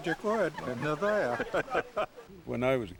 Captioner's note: chuckles